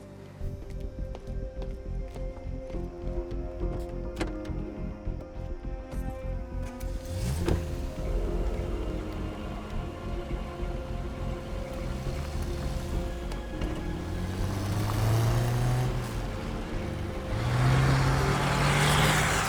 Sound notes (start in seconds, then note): 0.2 suspenseful music playing; 6.8 car engine starts; 14.1 car engine revving